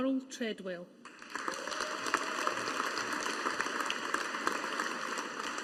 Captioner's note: audience applauding